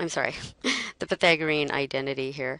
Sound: chuckle

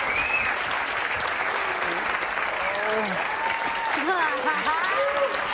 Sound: audience cheering and applauding

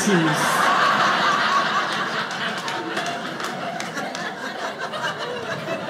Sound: audience laughing

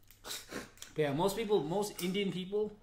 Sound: laughs

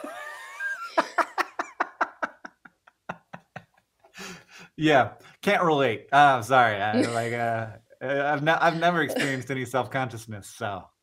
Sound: laughter

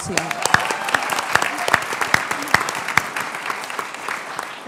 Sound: applause

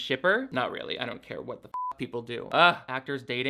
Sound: beep

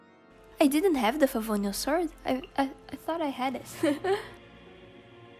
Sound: chuckles

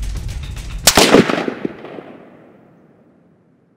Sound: gunshot

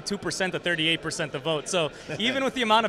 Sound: chuckles

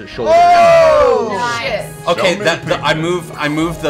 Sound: cheering

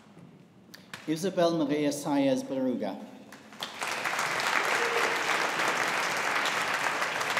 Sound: audience applauding

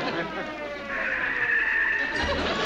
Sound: tires screeching

